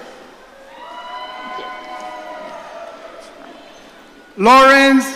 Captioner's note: audience cheering